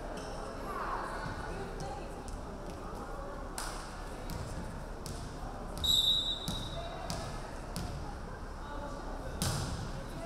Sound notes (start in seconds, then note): 5.8 referee whistling